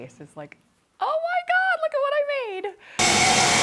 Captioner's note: machine buzzing